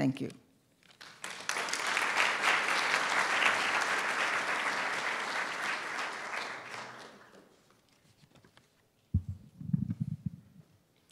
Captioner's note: applause